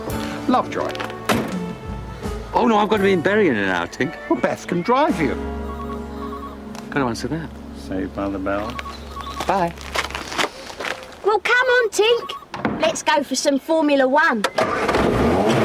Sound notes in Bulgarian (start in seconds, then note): 6.5 Звънене на телефона